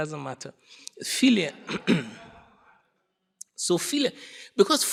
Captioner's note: audience laughing